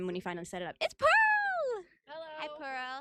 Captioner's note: happily